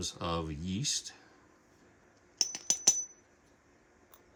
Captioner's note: ding